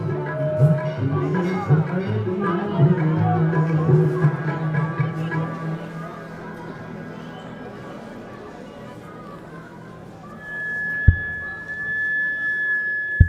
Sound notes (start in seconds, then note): 0.1 singing in foreign language; 4.0 crowd chattering